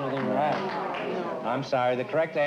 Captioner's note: audience aws